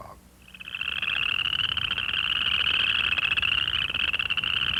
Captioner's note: western chorus frog call